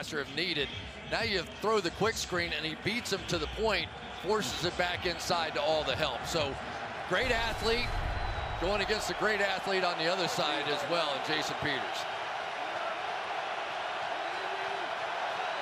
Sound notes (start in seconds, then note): 12.9 crowd cheering